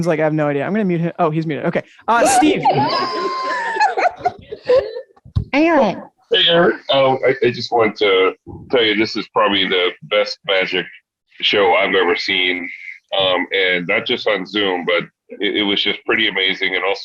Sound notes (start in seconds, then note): 2.2 woman laughing